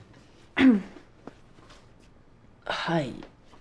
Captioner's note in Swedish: harklar halsen